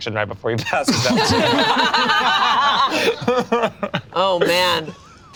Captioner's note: group laughs